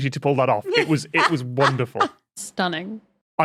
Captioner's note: cackles